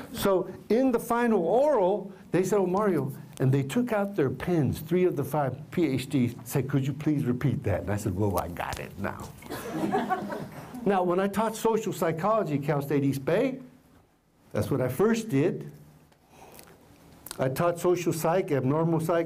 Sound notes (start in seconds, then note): 9.4 laughter